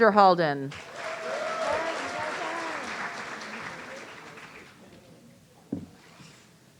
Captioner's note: audience cheering